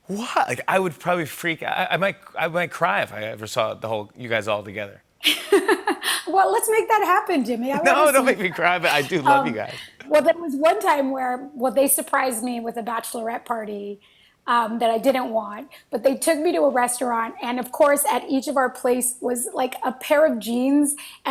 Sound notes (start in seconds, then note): 5.1 laughs